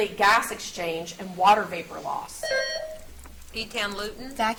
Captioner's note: buzzer beeps